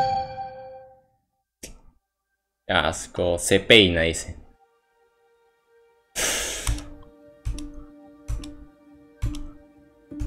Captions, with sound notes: (annoyance) Yuck. "It combs," he says. (sighs)